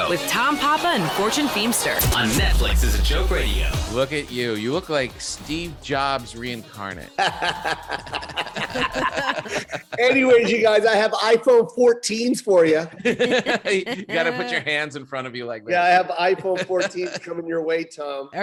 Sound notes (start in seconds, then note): 7.2 laughing; 12.8 laughing